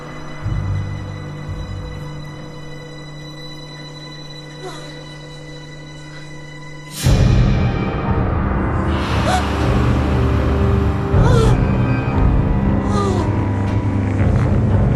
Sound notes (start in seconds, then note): 7.0 music crescendos; 9.2 Ellen inhales sharply and moans